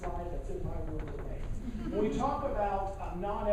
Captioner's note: laughing